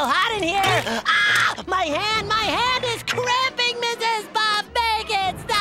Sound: screams

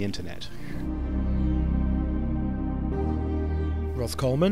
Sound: voiceover

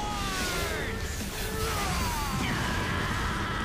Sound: roaring

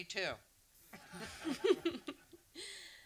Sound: audience laughs

